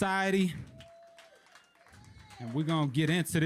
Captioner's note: audience claps